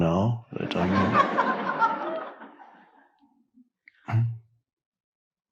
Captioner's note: audience laughing; Eckhart chuckles